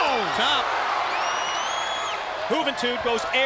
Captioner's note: crowd cheering